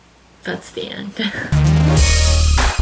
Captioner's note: laughs